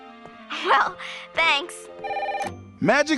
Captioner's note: phone rings